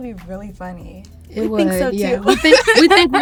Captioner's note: laughs